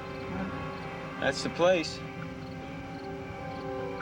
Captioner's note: insects chirring